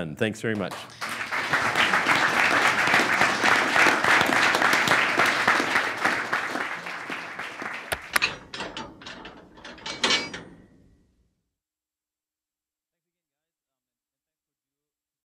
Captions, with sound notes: Alright, we're done. Thanks very much. (applause) (metal rattling)